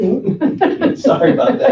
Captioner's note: laughter